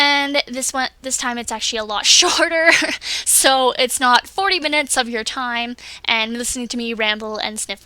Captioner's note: laughs